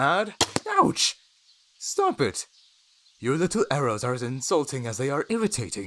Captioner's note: arrow fires and impacts